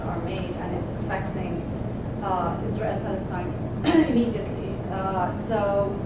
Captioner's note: cough